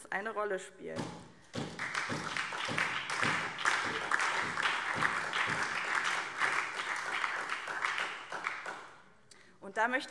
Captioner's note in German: Beifall SPD und vereinzelt Freie Demokraten